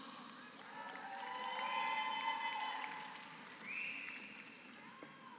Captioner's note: applause